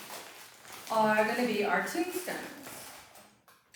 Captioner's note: rustling continues